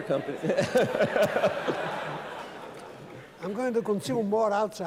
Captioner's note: laughter